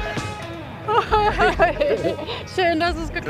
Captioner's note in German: Lässige Musik; Lachen